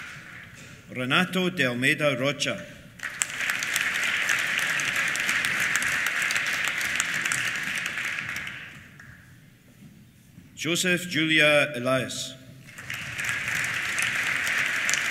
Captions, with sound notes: Renato de Almeida Rocha. (APPLAUSE) Josef Gyula Elias. (APPLAUSE)